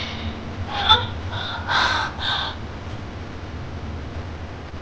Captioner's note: Sheila grunting